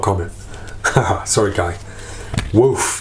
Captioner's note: laughs